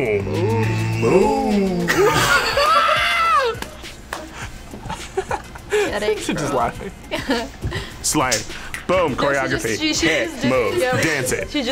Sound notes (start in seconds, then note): 1.8 both laugh; 4.8 laughs